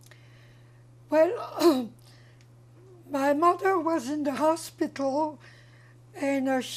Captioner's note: clears throat